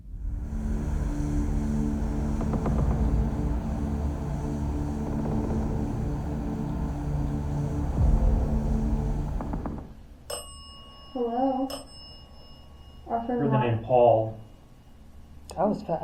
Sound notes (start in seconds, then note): 0.3 intense music continues; 10.3 bell chimes